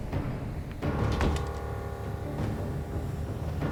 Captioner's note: door thuds; tense ominous music